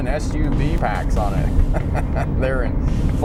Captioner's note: murmurs; laughs